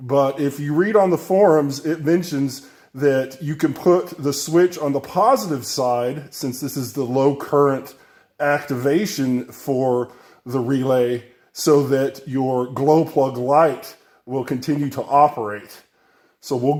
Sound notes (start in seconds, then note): none